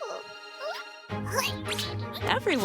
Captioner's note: caterpillar noises